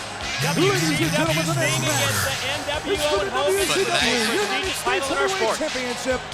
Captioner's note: speaks faintly